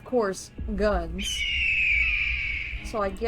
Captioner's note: egale screeching